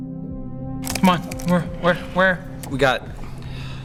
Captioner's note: nervous uttering